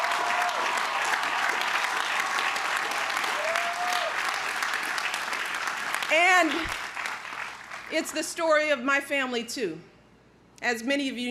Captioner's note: crowd cheering